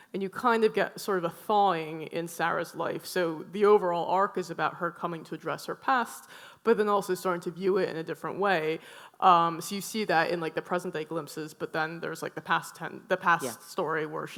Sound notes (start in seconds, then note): none